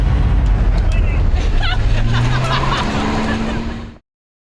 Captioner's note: laughing